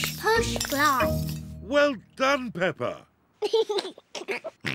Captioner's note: giggles